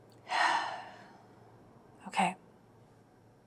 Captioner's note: Georgia sighs